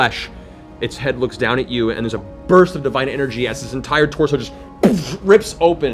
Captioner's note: explosion